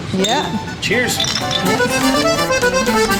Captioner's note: glass toasting; conjunto music